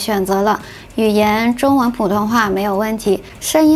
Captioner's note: Mandarin